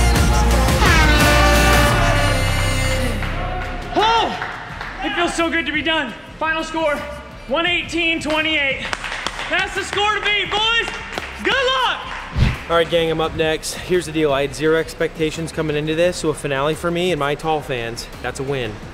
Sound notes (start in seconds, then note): 0.8 foghorn; 8.7 applause